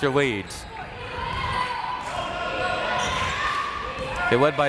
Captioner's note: crowd members shouting